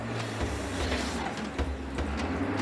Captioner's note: vehicle approaching